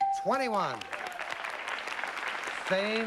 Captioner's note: applause